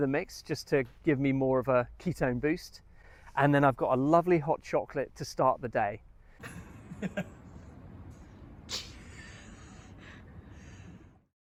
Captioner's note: laughing